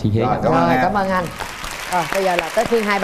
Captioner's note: applause